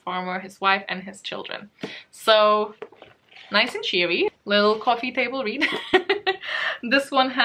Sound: laughs

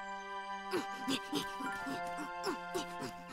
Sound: panting

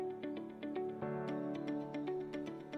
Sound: none

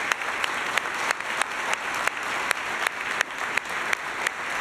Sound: applause

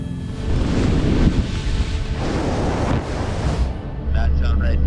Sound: skis whooshing

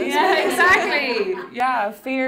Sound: laughing

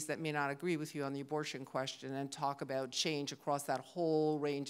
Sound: none

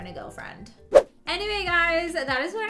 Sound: wind whooshes

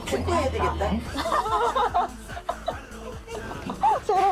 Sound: laughing

